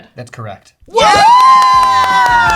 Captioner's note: cheering; clapping